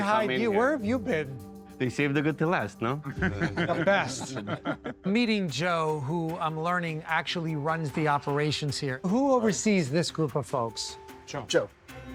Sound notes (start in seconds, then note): 5.8 all laughing